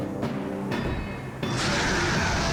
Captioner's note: snarling